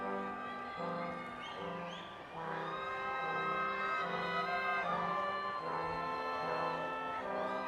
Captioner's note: crowd cheering